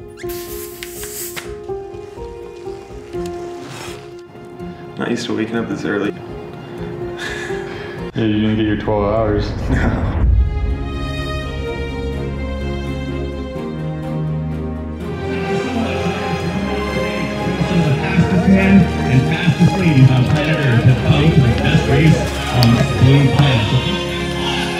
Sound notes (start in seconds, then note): 0.1 climactic melody; 12.7 climactic melody; 17.4 announcer on loud-speaker